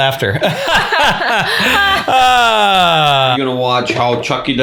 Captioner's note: both laugh